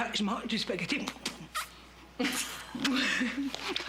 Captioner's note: bruits de succion